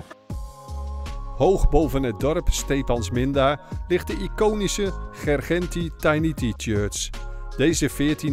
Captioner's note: voiceover